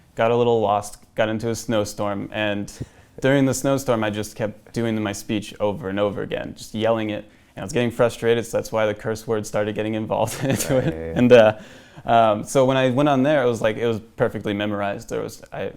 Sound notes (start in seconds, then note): 10.3 laughs